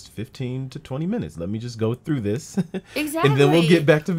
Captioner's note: laughs